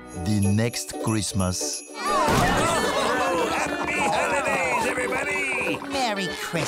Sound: customers laughing, chatting

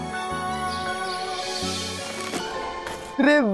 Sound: birds chirping

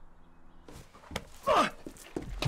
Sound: Sounds of Cecil falling

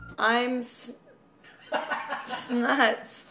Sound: laughter

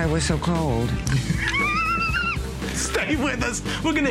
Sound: laughter

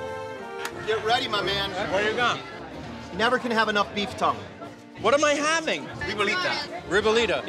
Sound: none

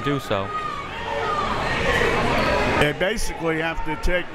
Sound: crowd members shouting

